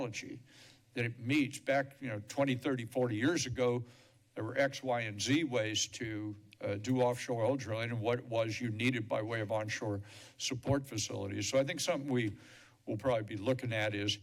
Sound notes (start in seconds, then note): none